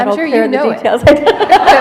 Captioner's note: laughter